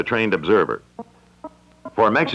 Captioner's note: Electronic audio effect